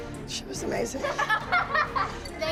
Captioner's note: laughter